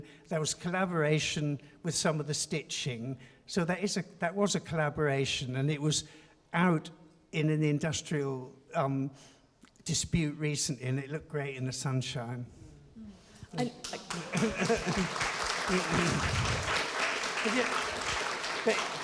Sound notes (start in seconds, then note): 13.6 chuckles; 13.6 audience applauding